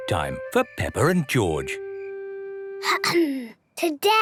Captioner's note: clears throat